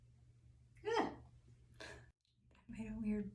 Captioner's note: shrieks